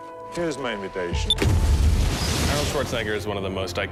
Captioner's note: beeping; explosion